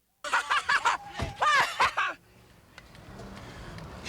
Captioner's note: laughs